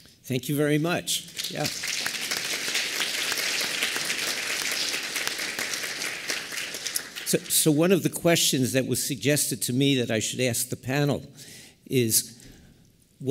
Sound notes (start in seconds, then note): 1.2 applause